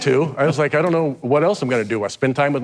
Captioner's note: host chuckles